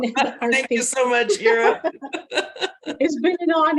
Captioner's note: both laugh